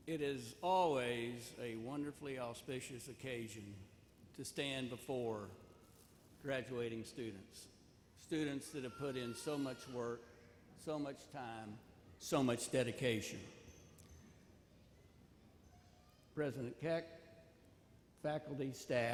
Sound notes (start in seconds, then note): none